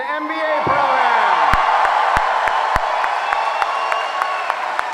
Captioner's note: applause